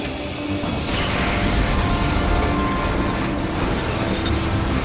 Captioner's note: roaring